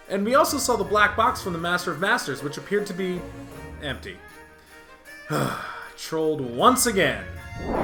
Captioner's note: sigh